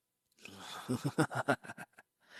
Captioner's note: laughs